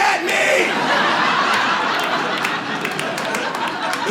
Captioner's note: audience laughs